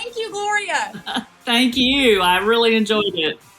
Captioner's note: laugh